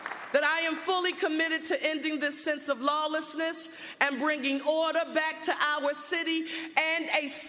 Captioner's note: applause